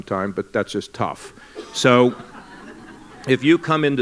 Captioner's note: laughter